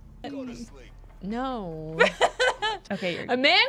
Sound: laughter

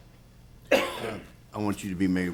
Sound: attendee coughs

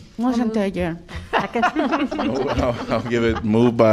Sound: laughter

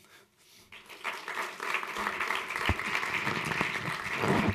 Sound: applause

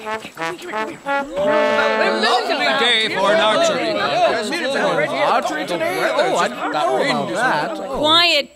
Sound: muffled conversations of townsfolk

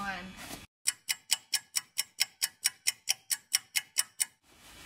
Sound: clock ticking

